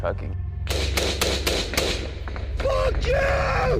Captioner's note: gunfire bursts